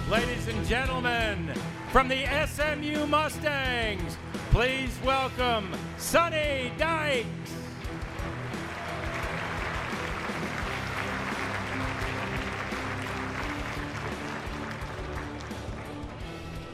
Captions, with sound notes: Ladies and gentlemen, from the SMU Mustangs, please welcome Sonny Dykes. (audience applauds)